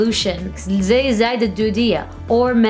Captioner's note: speaking Arabic